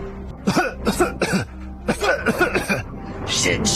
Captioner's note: coughing